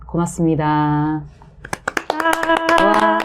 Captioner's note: applause